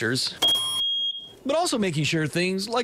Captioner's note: c0 detector beeps